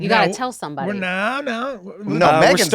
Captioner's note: stammers